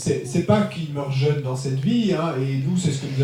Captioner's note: speaking in French